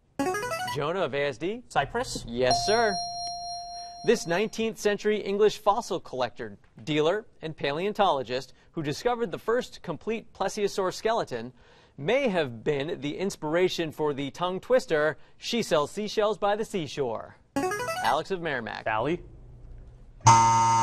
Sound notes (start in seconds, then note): 0.2 buzzer plays; 2.4 ding; 17.6 buzzer plays; 20.2 buzz